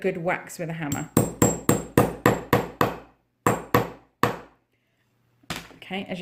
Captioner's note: sound of hammering